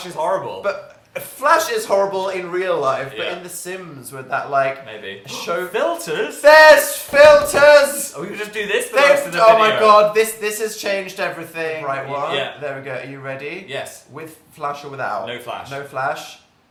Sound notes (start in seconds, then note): 6.9 yelling